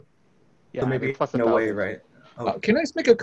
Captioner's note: murmurs